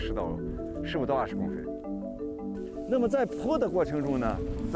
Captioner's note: speaking chinese